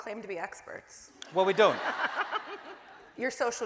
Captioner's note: audience laughing